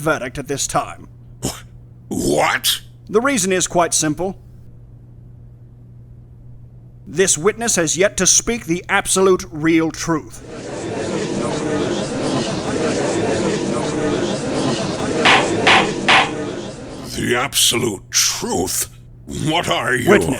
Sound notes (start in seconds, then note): 10.4 gallery chattering; 14.9 gavel slams!